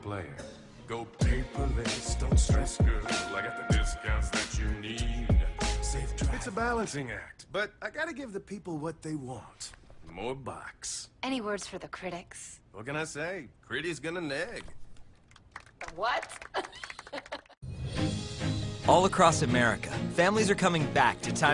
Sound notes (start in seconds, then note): 15.2 applause; 16.4 laughs